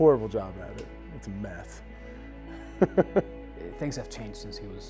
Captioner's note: laughs